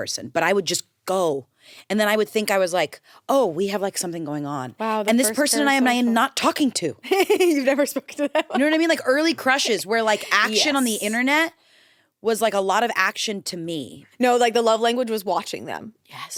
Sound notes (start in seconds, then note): 7.1 laughs